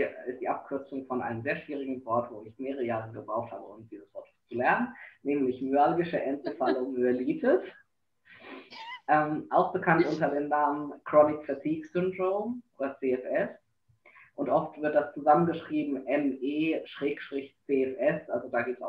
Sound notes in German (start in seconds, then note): 6.2 beide lachen